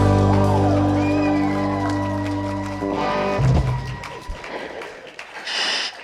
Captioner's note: audience claps and cheers